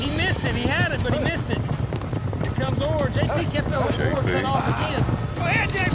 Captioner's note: hoofbeats